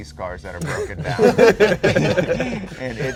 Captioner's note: all laughing